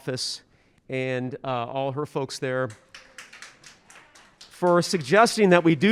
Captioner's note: audience applauding